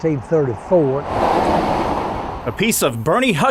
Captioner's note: car drives